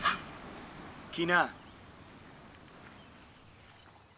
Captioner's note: Smith speaking local language